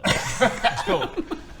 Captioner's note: laughs